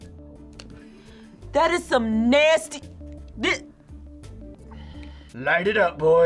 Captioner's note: sighs